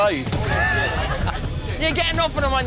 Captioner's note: laughing